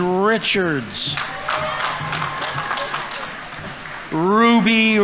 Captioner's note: audience members cheering; audience applauding